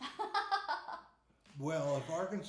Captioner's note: laughing